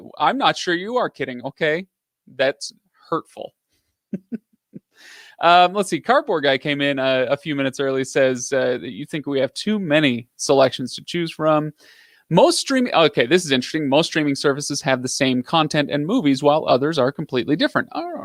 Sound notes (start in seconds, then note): 4.1 laughs